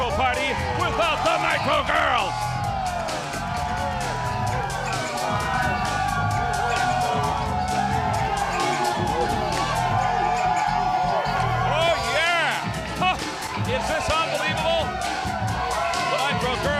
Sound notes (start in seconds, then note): 2.9 crowd cheering